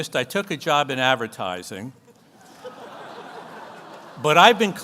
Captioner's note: audience laughs